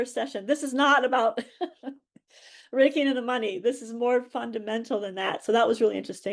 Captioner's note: laughs